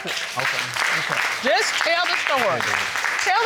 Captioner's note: audience applauding